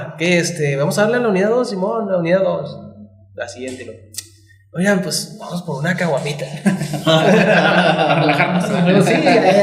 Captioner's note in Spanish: risas